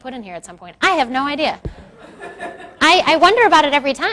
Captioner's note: crowd laughs